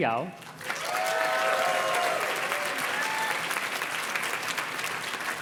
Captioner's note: audience cheers and claps